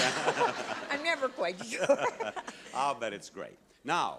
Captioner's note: laughing